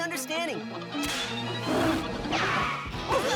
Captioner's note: clyde roars